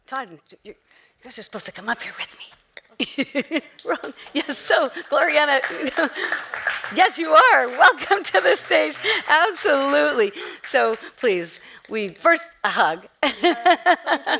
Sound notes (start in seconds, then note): 3.1 chuckling; 5.9 audience applauding; 13.2 chuckling